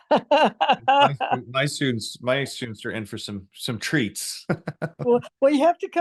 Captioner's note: laughs; laughs